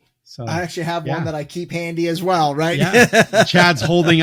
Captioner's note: laughs